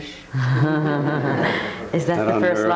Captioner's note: audience laughing